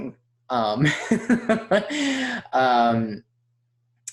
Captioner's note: laughs